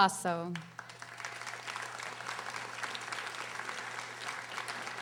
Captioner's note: audience applauding